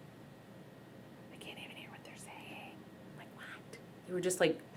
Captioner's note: whispers